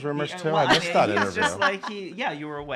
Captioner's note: laughing